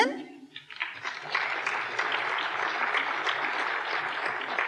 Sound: applause

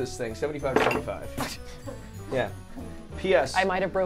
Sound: ornaments clattering

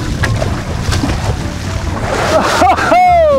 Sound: water splashing; chuckles

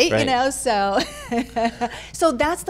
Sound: laughing

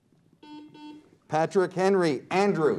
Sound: buzzer beeps

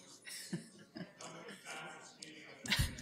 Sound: laughs

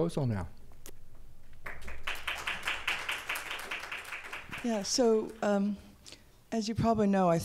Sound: applause

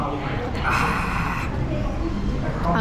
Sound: sighing

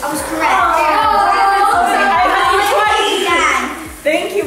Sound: kids talking over each other

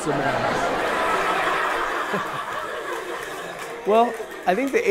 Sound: people laughing

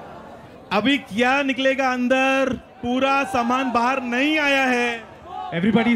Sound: non-english speech

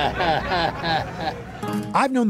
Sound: chuckles

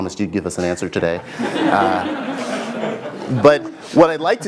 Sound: laugh

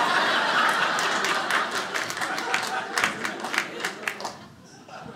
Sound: audience laughing

